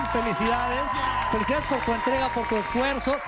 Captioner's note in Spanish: vítores